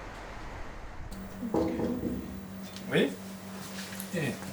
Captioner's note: knock on door